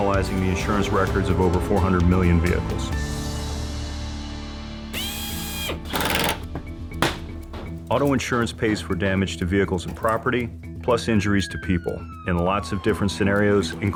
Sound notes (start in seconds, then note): 4.9 high-pitched drilling; 5.7 hammering; 6.9 clattering